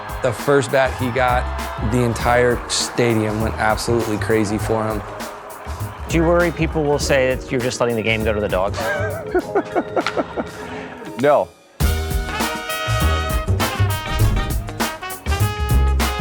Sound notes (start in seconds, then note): 8.7 laughing; 11.8 jazzy upbeat music